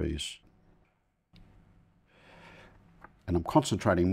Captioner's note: silence